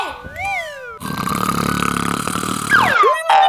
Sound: whistle sliding; exaggerated snoring; whistle sliding; spring boinging

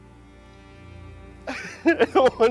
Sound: laughs

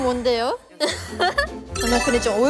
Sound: giggles

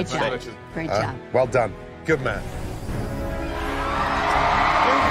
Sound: crowd cheering

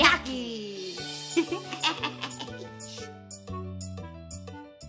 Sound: chuckling

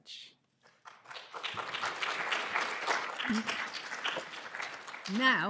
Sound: applause

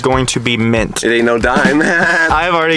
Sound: laughs

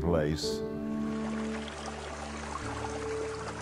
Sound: water running

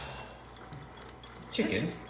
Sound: exhale

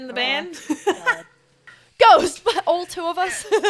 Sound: laugh

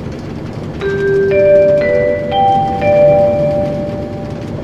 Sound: chime

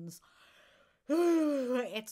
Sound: yawn

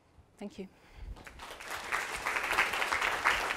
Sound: applause

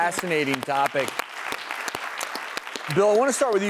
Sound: clapping

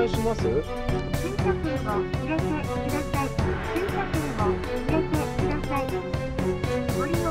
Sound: machine voice

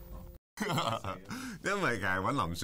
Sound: laughs

